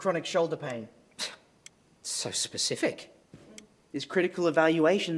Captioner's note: scoffs